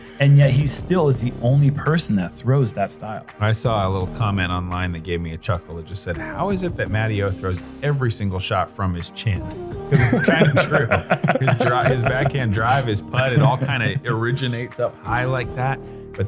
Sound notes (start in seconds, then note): 9.9 laughter